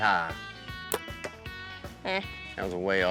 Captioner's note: arrow shot